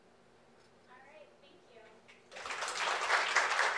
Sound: voiceover; clapping

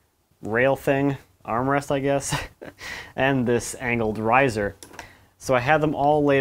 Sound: laughs

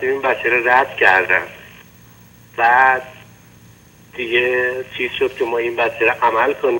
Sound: speaking in foreign language

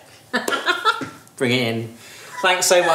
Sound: laughs

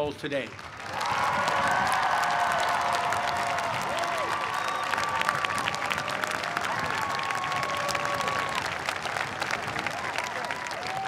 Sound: cheers and applause

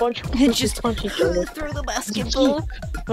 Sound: laughs

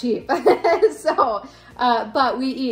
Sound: laughing

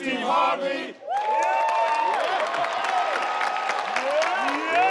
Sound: all cheer

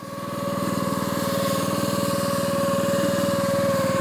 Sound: engine runs

